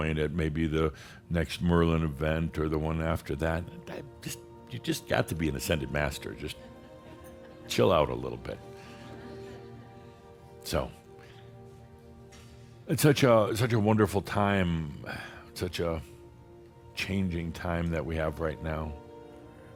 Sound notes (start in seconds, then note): 9.4 a few soft chuckles